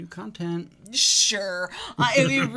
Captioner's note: chuckles